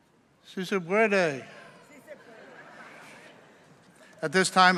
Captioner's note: speaking in foreign language